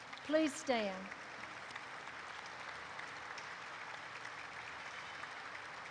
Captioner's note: applause erupts